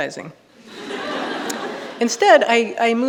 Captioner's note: audience laughing